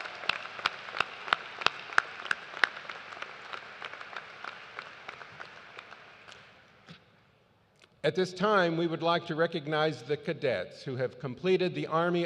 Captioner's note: cheers and applause